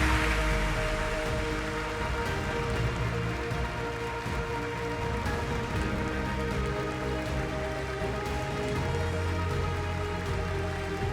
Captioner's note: applause